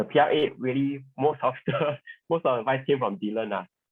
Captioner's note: laughs